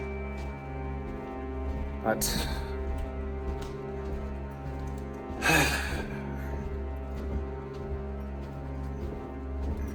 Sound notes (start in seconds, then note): 5.4 sighs